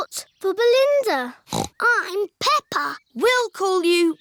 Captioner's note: snorts